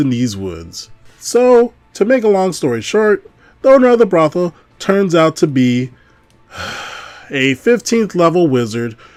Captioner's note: sighs